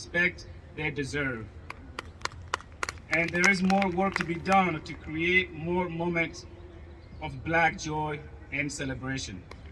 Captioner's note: applause